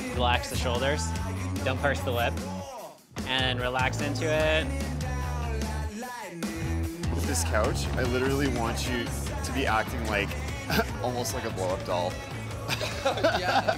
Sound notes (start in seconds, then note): 12.6 chuckles